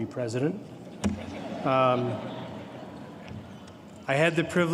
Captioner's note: laughter